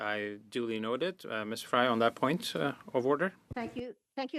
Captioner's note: speaking French